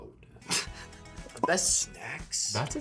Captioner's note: Lola laughs